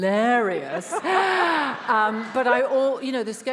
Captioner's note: attendees laughs